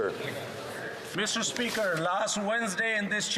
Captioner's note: speaking French